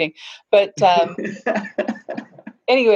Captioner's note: laughing